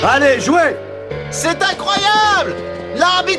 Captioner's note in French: commentateur, hurlant